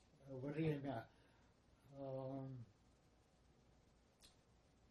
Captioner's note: pause 7 seconds